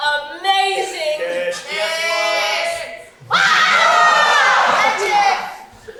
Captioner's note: audience: "kiss", screaming